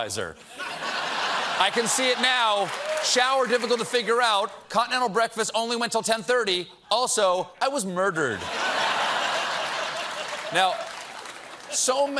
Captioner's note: laughter